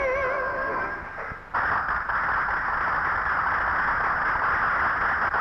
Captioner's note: audience applauding